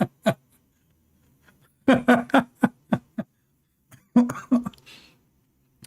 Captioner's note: Ketawa